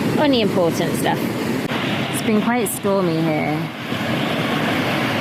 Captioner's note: waves